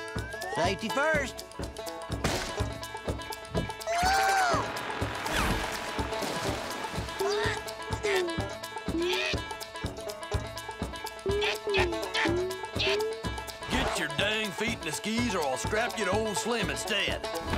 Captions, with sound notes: Safety first. [grunting] [grunting] Get your dang feet in the skis or I'll strap you to Old Slim instead.